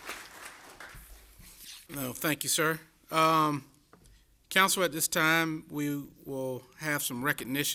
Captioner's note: applause